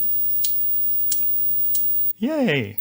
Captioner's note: clicking